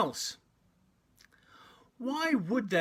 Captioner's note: Arabic